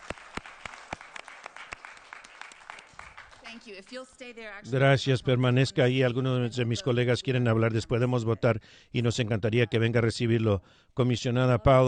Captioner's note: applause